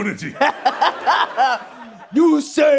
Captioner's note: laughing